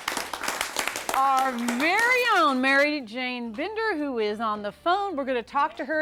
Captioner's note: �applause�